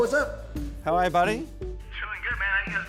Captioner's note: on phone